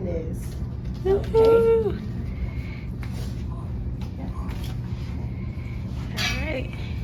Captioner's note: camera operator cheering